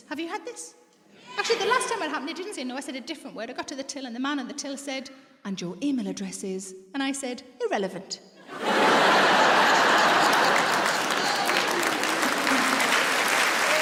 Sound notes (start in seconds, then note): 8.4 audience laughs; 10.6 audience applauds